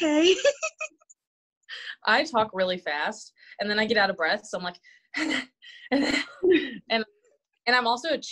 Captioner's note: heavy breathing